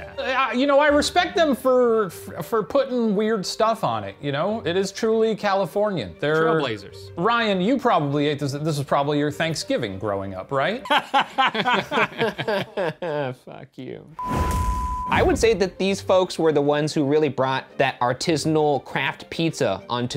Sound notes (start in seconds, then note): 10.8 all laughing; 14.2 beep